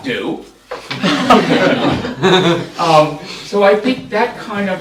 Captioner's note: laughter